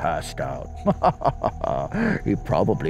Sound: laughs

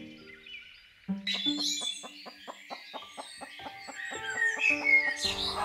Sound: birds sing, chicken cluck

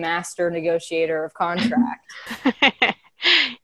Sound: laughing

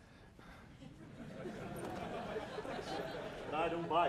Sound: audience chuckling

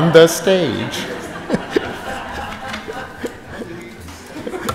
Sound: group chuckles

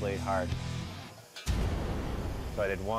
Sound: sizzles

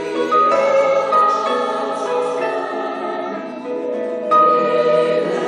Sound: choir speaks in foreign language

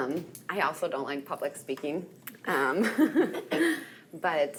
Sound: chuckles

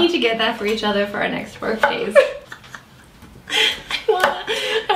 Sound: laughs

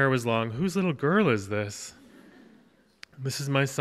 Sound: audience chuckles

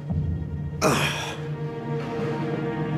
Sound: exhales

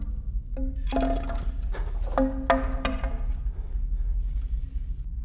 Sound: object echoes

